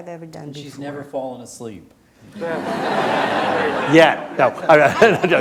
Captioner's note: laughter